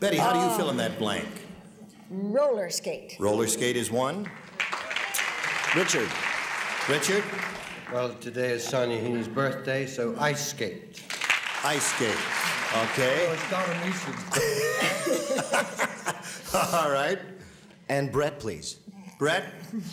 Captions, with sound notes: -Betty, how do you fill in that blank? -Ah, roller skate. -Roller skate is one. [applause] -Richard? -Richard? -Well, today is Sean Heeny's birthday, so ice skate. [applause] -Ice skate, okay. [indistinct chatter] -[laughs] All right. -And Brett, please. -Brett.